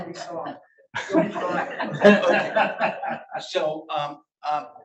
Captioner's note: audience laughs